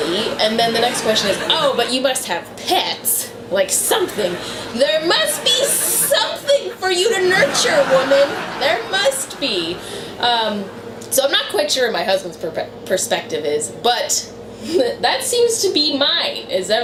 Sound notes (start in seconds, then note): 0.0 audience laughter; 0.1 laughter; 7.5 audience laughter; 8.5 laughter